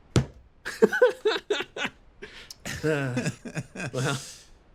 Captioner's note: laughs